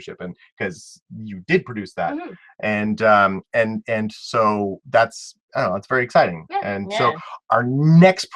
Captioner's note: hmm hmm